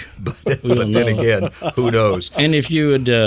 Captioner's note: person laughing